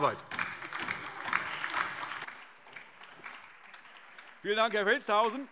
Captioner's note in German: Beifall DIE LINKE, vereinzelt SPD und Freie Demokraten